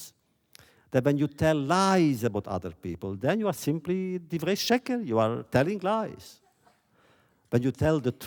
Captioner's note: laughter